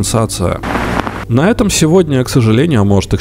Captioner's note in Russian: помеха